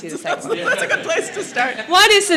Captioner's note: laughs